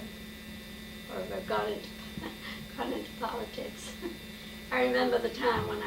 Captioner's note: chuckles